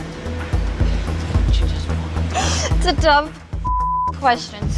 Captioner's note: suspenseful music; sobs; beeps